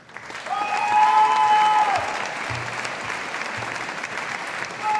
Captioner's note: audience applauding